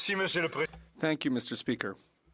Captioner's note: speaking French